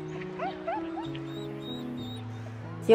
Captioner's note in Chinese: 哭聲